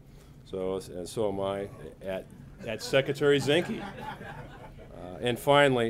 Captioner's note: laughter